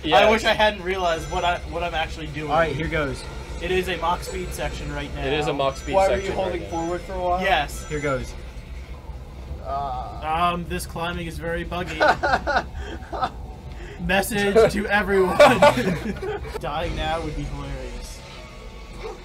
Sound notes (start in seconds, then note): 11.8 laughs